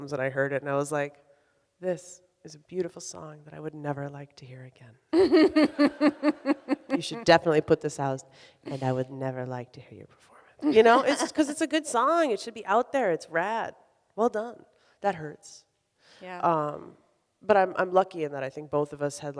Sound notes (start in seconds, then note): 5.1 laughs; 5.3 audience laughs